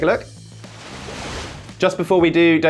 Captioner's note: wave crashing